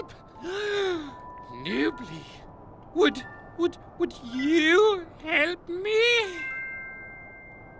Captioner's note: gasps